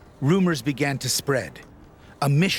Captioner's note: voiceover